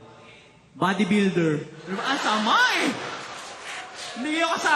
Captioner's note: laughter